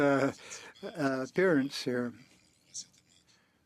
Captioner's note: speaking French